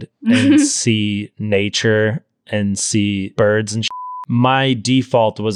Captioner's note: beep